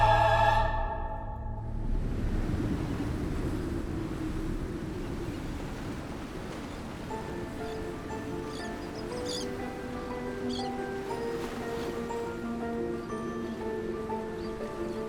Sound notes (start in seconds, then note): 2.3 waves crashing and birds chirping; 6.8 celestial orchestral music